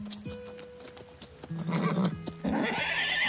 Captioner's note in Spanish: Relinchos